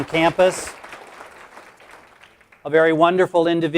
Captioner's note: applause